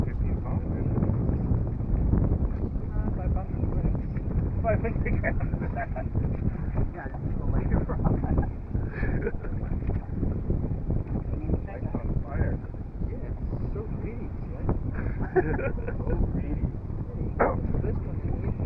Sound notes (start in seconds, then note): 2.5 wind blowing